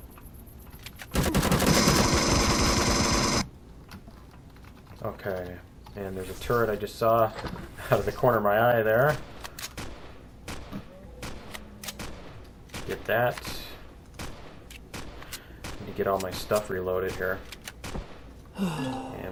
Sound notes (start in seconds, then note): 1.0 incoming rapid fire; 1.1 pulse rifle; 9.6 incoming fire; 11.1 weapon clicks; 18.3 reloading